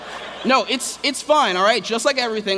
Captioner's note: laughter